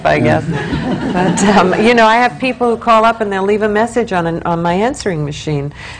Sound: laughter

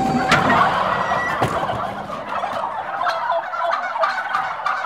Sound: turkeys gobbling

